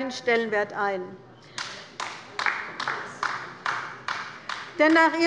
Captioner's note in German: Beifall bei der LINKEN